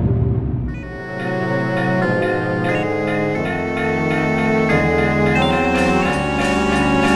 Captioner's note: Legend of Zelda sounds